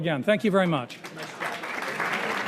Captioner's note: crowd applauding